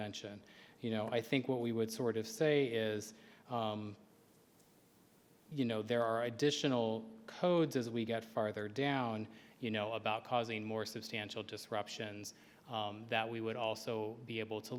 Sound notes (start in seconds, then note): none